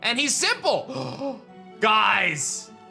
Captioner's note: gasps